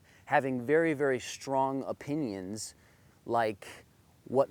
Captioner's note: none